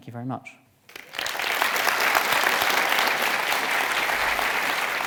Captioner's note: audience applauding